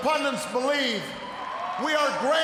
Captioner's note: cheers, applause